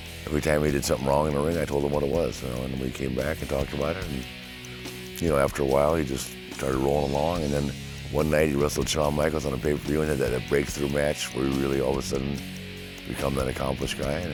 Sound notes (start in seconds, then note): none